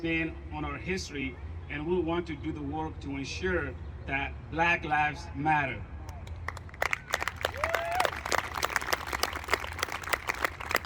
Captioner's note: applause